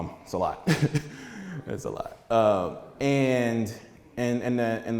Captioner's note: chuckles